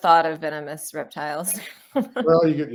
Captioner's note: laughs